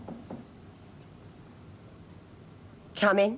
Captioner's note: knocking